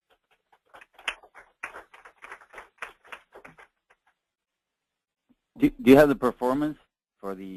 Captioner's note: applause